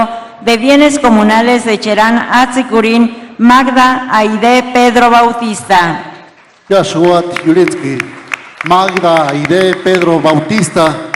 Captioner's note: applause